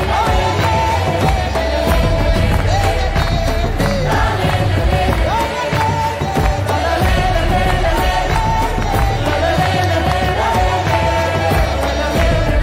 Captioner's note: cheering